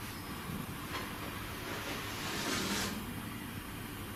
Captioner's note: sliding